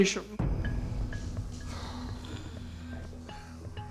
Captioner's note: sighs